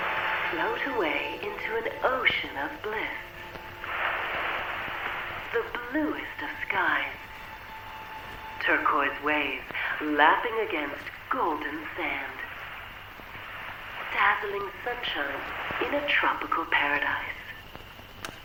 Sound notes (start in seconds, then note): 0.0 ominous music; 3.7 waves whooshing; 13.8 waves whooshing